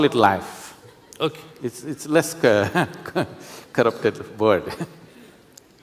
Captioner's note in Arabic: يضحك